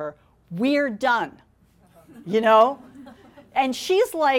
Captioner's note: audience laughing